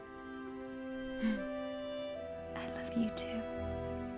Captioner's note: chuckles